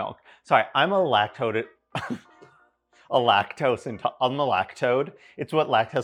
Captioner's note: chuckling